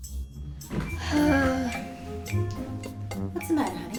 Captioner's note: sighs